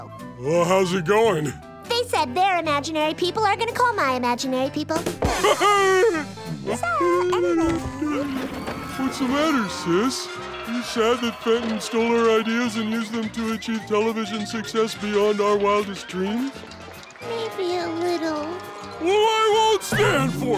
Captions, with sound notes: Well, how's it going? They said their imaginary people are gonna call my imaginary people. [chuckles] So, anyway. What's the matter, sis? Are you sad that Fenton stole our ideas and used them to achieve television success beyond our wildest dreams? Maybe a little. Well, I won't stand for it!